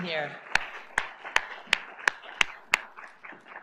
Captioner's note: applause